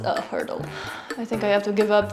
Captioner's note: sigh